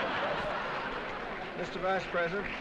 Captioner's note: laughter